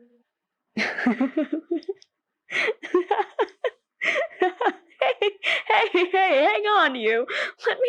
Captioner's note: laughs